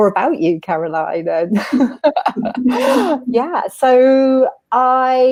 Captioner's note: laughing